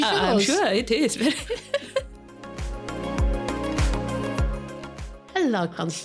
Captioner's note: laughing